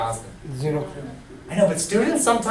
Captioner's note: voiceover